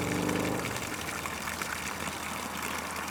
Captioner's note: flowing spring water